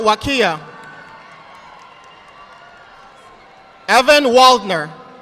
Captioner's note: audience applauding